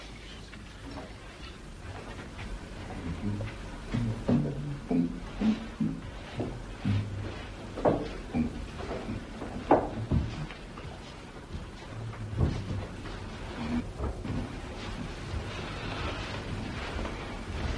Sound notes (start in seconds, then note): 2.8 hums to himself